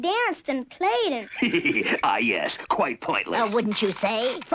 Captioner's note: laughs